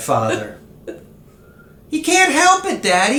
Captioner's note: giggle